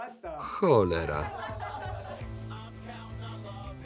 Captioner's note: laughter